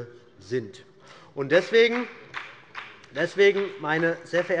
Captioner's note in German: Beifall der Abg